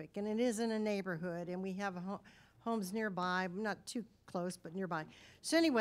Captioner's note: none